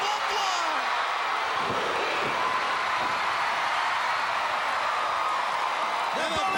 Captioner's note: crowd cheering